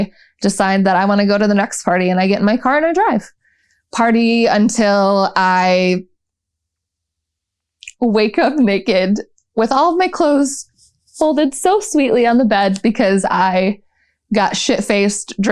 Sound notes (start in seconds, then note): none